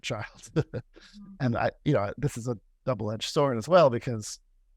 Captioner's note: laughter